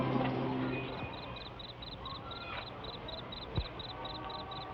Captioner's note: insects chirp